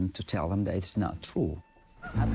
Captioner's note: goose honking